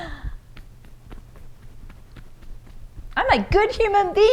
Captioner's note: quiet tapping